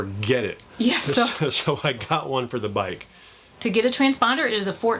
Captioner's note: chuckling